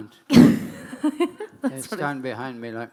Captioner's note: laughing